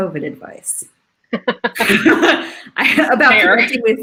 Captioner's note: laughs